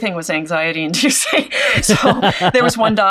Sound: both laughs

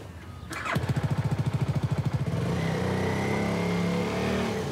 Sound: engine revving

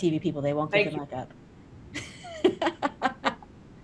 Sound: laughs

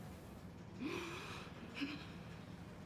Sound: muffled sobs

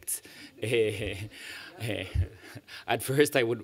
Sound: laughter

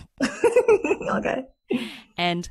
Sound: laughs

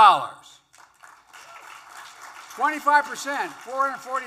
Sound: applause

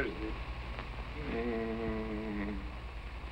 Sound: moaning

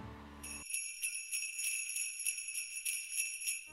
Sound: sleigh bells

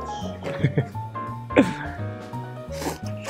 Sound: chuckles

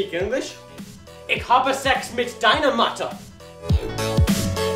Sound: speaks German

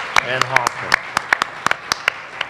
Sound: applause

